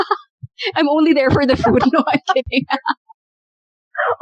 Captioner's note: laughter; laughter